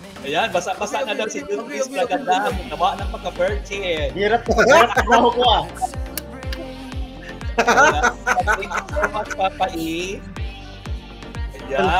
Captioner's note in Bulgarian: Смях